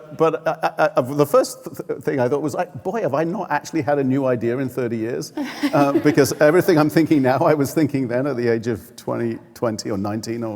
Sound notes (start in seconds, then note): 5.4 laughing